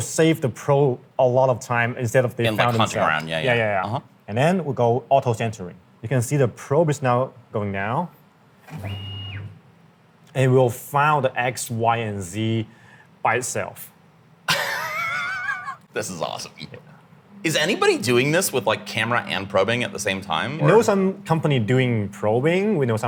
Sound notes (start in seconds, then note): 8.6 machine whirring; 14.5 laughs